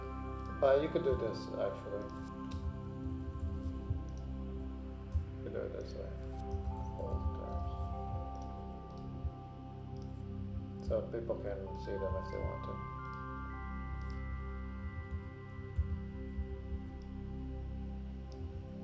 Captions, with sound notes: - You could do this, actually. You could do it this way, full terms. (keyboard clicking) So people can see them if they want to. (gentle music) (keyboard clicking)